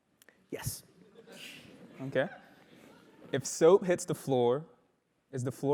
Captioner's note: laugh